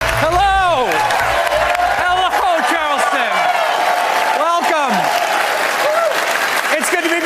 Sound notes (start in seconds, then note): 0.0 cheers and applause